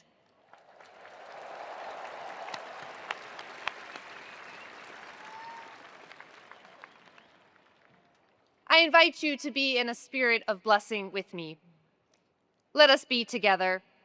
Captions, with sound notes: (attendees applauding) I invite you to be in a spirit of blessing with me. Let us be together